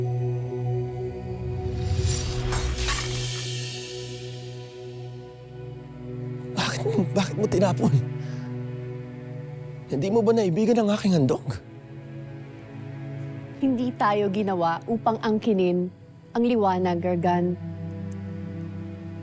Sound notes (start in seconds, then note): 1.6 music swells; 1.8 crystal shatters